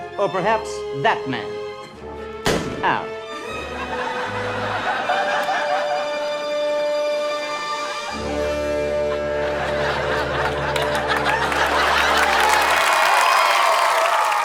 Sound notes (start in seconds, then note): 2.4 gunshot